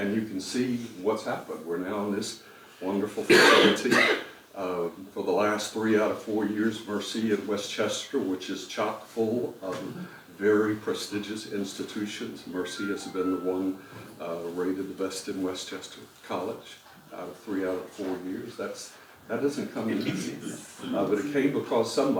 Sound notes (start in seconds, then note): 3.2 cough